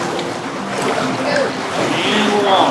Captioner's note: water splashing